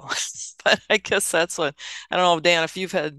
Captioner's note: laughs